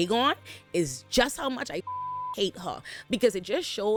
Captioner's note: beep